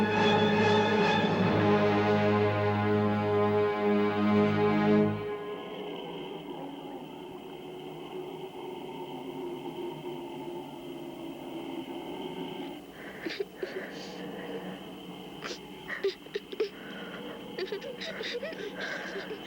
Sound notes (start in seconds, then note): 6.2 insects chirping softly; 12.2 both weeping softly